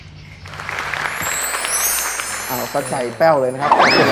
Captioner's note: clapping sound